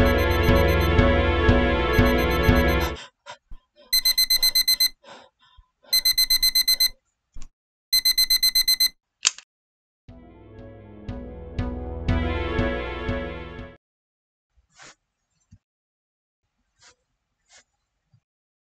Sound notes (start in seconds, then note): 3.9 alarm clock beeps